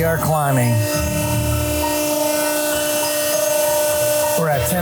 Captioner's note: machine whirring